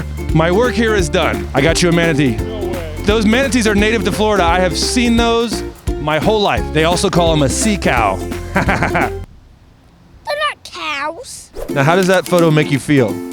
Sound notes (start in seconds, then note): 8.5 laughing